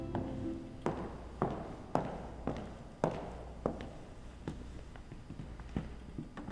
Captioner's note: footsteps